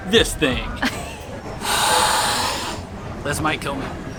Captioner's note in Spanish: soplando el sonido del aire